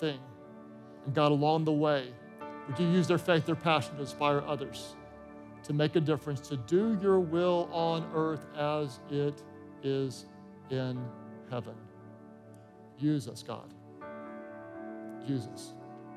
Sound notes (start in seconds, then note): none